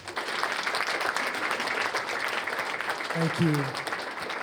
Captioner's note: applause